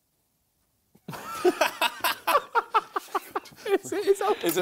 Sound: both laughing

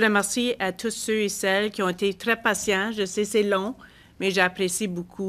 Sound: speaking French

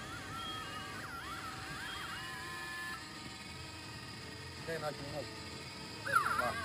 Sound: oscillating electronic sound

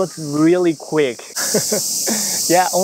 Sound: chuckles

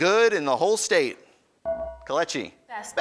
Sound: ding

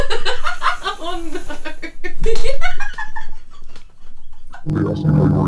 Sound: laughing

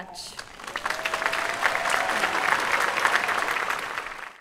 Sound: applause

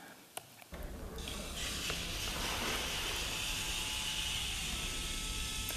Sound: machines whirring

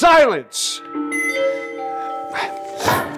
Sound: alarm continues

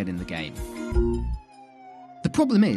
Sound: sirens

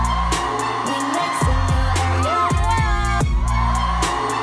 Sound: cheering

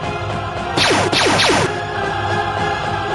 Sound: blaster fire

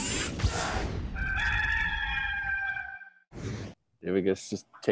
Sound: rooster crows

